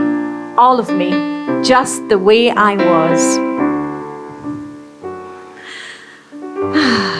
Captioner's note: sigh